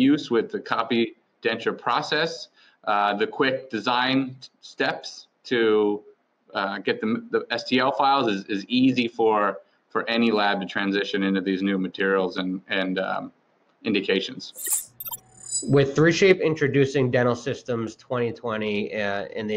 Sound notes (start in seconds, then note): 14.5 electronic chimes